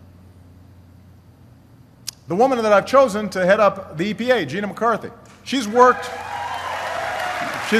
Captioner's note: applause